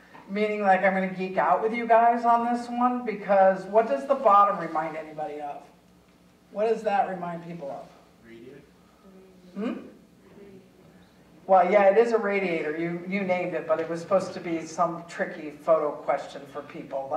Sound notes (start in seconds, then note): 10.2 audience members murmuring